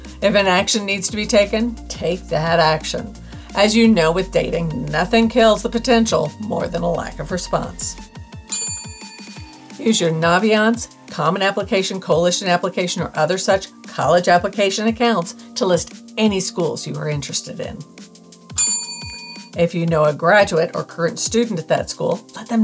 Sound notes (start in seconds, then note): 8.4 bell rings; 18.5 bell rings